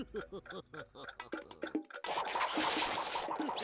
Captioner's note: laughing maliciously; clock ticking